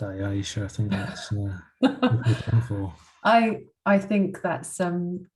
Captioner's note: laughs